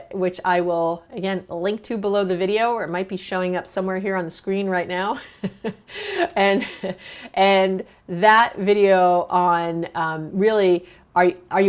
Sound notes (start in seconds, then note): 5.2 chuckles